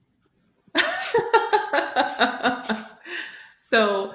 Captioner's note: laughter